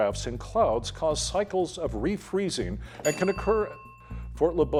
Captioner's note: bell dinging